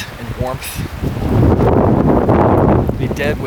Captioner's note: wind blows